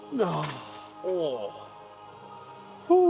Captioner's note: grunts